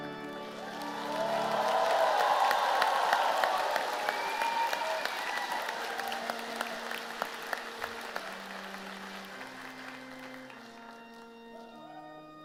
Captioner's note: cheers and applause